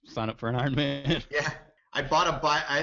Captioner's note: chuckles